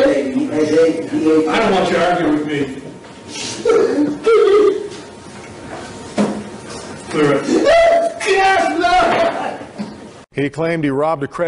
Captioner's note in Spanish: espectador llorando